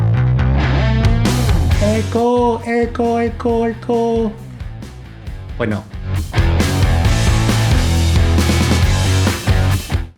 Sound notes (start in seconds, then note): 1.8 echo Echo Echo